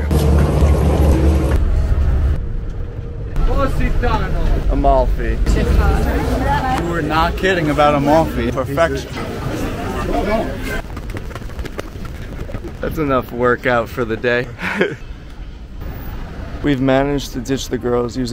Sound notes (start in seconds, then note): 0.2 engines humming; 6.1 people chattering; 10.5 fast-forwarding whooshing; 14.5 laughs